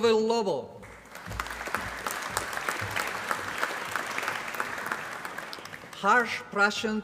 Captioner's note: applause